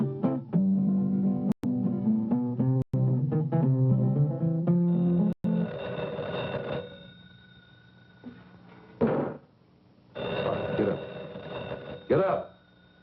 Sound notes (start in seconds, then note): 4.8 phone ringing